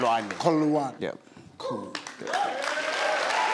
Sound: speaks foreign language; audience clapping

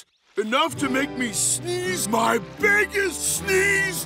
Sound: none

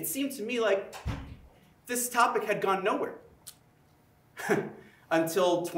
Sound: chuckles

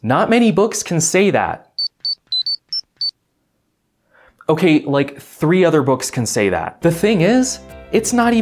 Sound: beeping phone ring

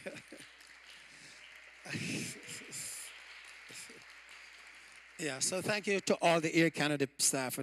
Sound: applause

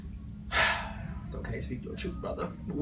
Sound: breathes deeply

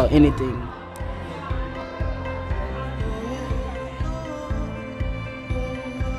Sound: hopeful music; students chattering

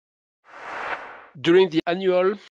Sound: whoosh

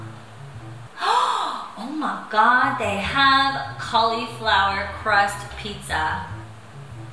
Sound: gasp

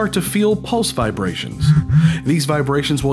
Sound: phone vibration sfx

